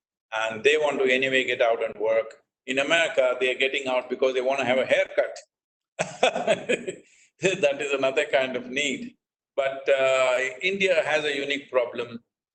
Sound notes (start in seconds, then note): 6.0 laughs